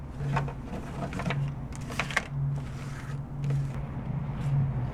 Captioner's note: cards scrape against wooden table